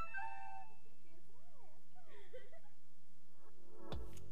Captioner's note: girl giggling; cool vibe music